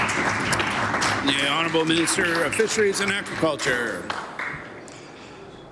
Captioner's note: applause